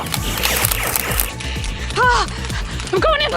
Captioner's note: Nerf blaster firing